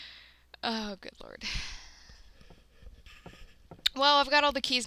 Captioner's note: deep sigh